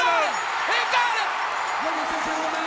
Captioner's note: crowd cheering